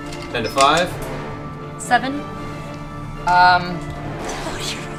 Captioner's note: laughs